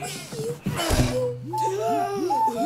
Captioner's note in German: Lautes Stöhnen